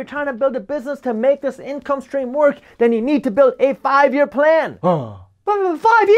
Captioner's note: groan